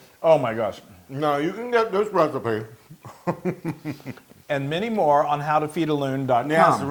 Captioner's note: laugh